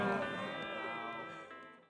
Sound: groaning

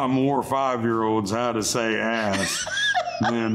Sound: laughing

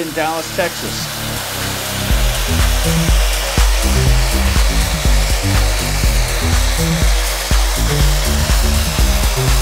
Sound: sound of Merlin III taxiing

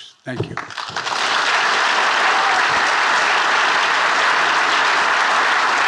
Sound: attendees applauding

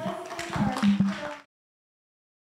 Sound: audience clapping

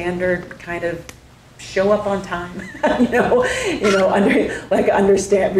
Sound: laughs

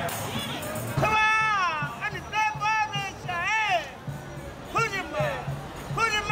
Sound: speaking in foreign language

